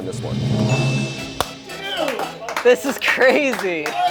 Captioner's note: bell dings